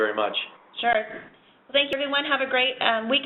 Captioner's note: voiceover